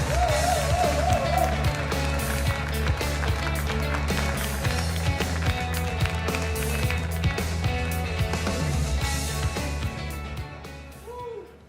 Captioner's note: cheers and applause